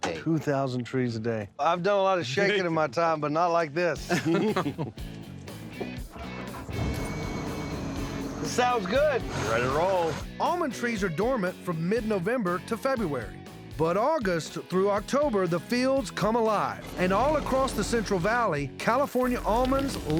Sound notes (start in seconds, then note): 4.0 chuckling; 6.4 engine starting